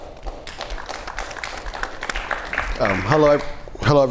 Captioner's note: audience applauds